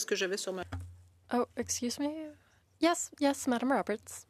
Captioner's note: speaking French